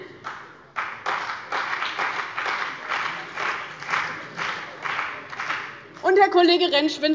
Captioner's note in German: Beifall bei dem BÜNDNIS 90/DIE GRÜNEN und der CDU